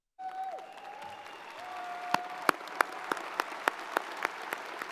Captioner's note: audience cheers and applauds